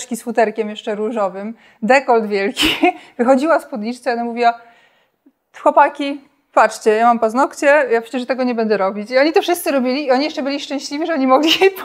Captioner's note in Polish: śmiech